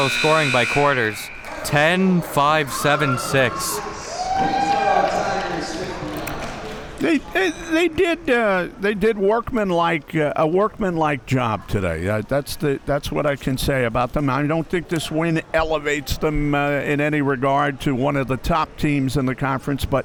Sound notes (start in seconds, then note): 3.7 spectator cheering